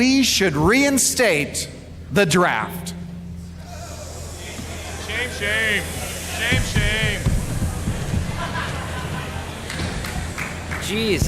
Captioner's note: someone yells Shame Shame